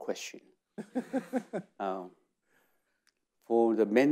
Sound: laughs

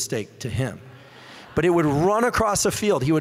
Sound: audience laughing

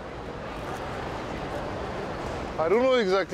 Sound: chatter

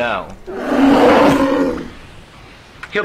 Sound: bear growls

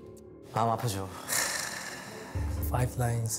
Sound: sigh

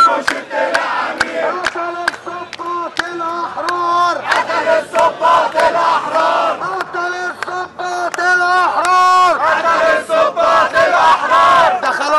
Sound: chants

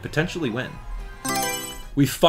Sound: Mario Selection Sound

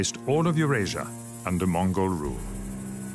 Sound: speaks French

